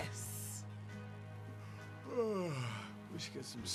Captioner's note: yawns